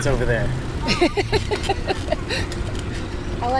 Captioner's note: laughter